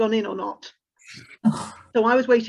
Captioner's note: sighs